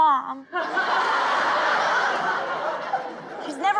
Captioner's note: crowd laughing